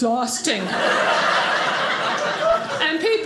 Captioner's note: audience laughing